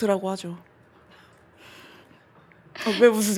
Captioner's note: everyone quietly laughing